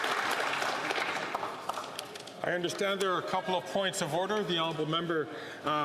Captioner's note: applause